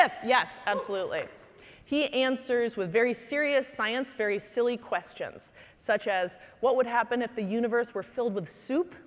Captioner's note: none